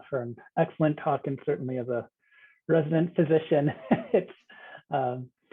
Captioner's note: laughs